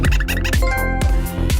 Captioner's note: PlayStation trophy alert